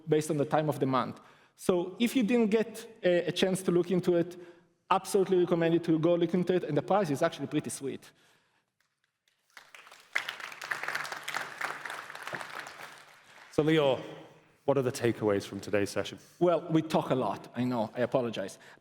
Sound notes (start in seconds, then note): 9.2 applause